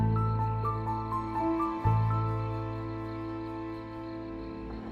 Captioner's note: insects chirping; tense music